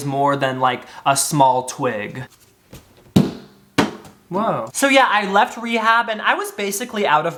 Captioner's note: banging sound